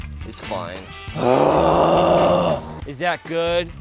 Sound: groaning

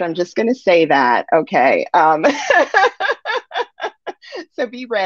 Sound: laughs

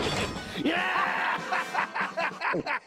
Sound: gulp

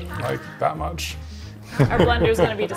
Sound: laughing

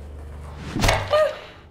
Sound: zombie moans; mop whack

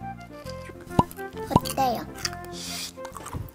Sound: shhh

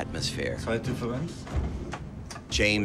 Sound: speaking German

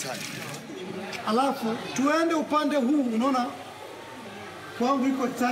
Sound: speaking in foreign language

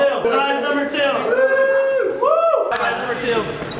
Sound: cheering

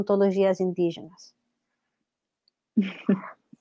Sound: laughs

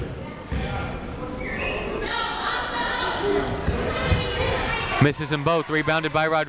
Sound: people shouting in the crowd

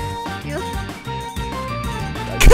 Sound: hit sounds

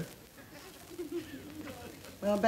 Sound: background laughter

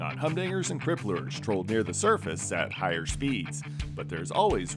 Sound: none

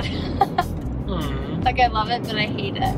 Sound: laughs

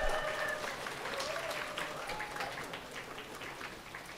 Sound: audience applauding

